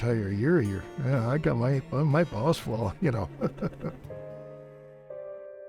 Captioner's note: chuckles; melancholy music